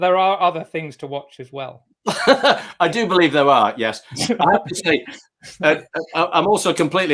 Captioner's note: laughs